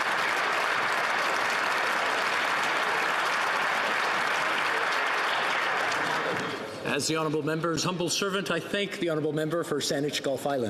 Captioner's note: applause